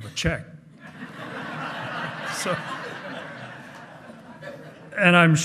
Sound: hearty laughing

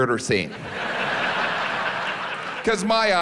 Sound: audience laughs

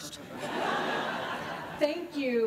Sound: laughter

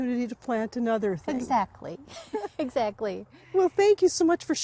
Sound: laughs

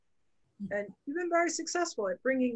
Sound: chuckles

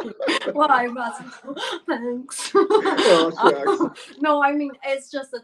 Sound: giggles

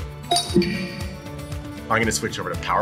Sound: computer chimes

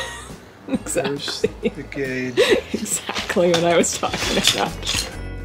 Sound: laughing

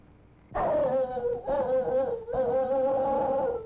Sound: dog barking

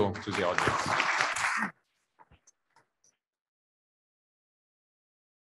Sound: audience applauds

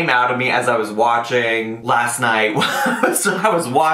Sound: laughs

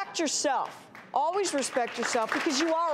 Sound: applause

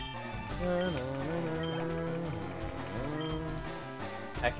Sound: humming to music

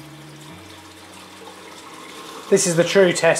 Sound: water draining

